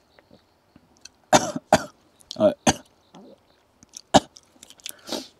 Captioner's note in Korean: 술이 독해서 나오는 기침